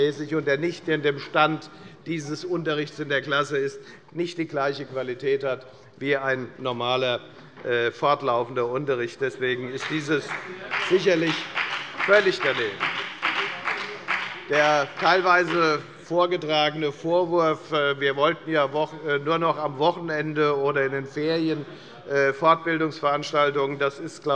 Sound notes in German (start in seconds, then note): 12.2 Beifall bei der FDP